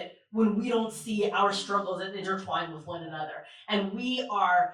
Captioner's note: none